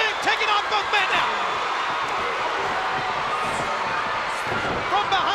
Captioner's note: crowd cheering